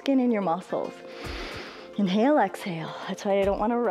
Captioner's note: inhales